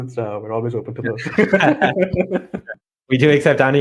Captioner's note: both laugh